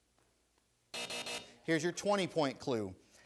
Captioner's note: buzzer sounds